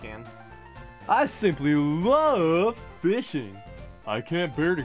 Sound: goofy voice

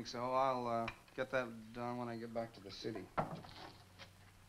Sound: none

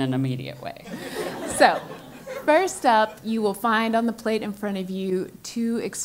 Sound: laugh

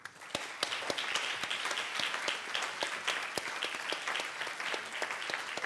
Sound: audience applauding

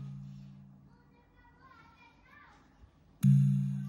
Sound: voices outside

